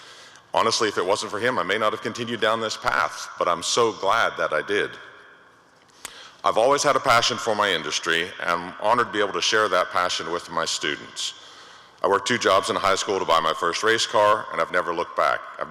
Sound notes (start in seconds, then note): none